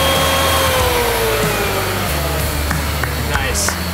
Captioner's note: router powering down